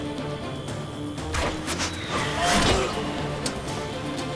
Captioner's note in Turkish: Ok fırlatma sesi; Müzik - Hareketli